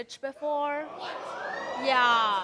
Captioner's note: audience mumbling